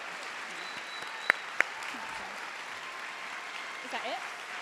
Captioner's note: applause